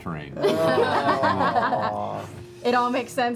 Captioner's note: laughter